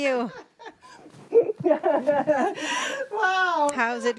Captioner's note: laughter